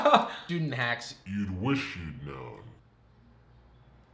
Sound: laughs; slow motion voice

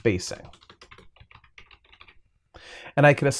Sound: typing

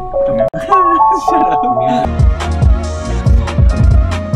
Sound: laughs

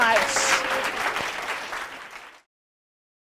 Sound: applause

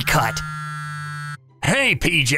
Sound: phone Ringing

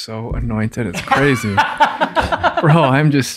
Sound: father laughing

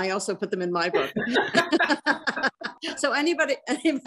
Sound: both laughing

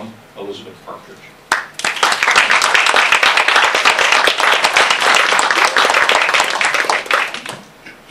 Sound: applause

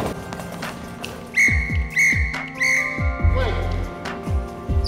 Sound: whistle 3 times

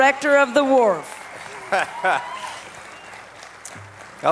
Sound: applause

